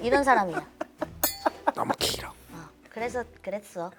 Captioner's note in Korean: 계속 웃다 지침